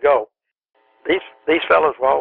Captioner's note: tape switch